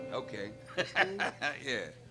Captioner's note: guitar strumming; laughs